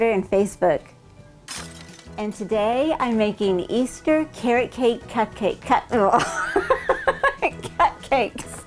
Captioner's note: laughing